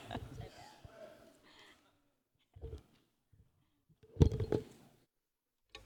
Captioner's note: laughter